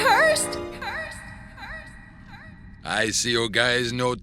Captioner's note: voice echoes